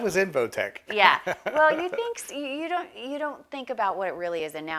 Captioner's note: laughs